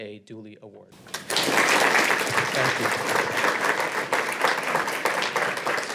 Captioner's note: audience applauds